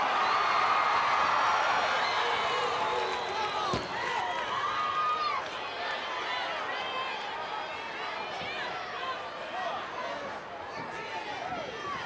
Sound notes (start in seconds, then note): 2.9 audience cheering continues